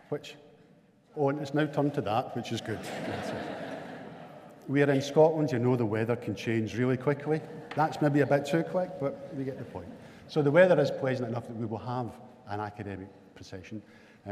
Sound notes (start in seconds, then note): 2.6 audience laughing